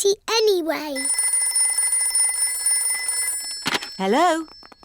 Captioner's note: phone rings